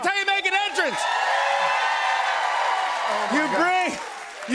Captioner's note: cheers and applause